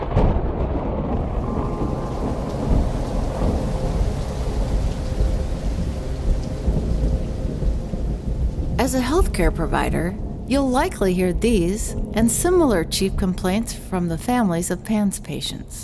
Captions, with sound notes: (thunder rumbling) (rain pattering) - As a healthcare provider, you'll likely hear these and similar chief complaints from the families of PANS patients.